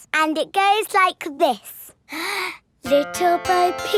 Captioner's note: inhales